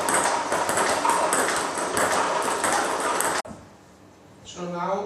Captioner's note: ball ping pong hitting continues